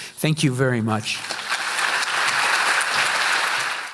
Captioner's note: audience applauding